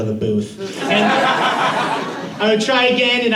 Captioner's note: laughter